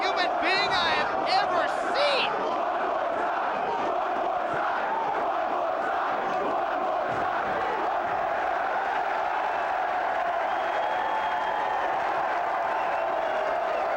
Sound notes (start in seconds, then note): 2.7 crowd chants "One more time"; 9.0 cheers